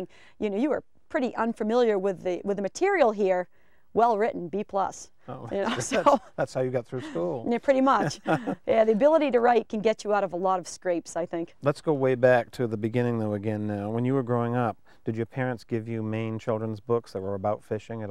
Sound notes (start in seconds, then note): 5.6 chuckling; 7.8 laughing